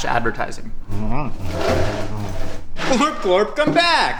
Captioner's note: Glerbglorp grunting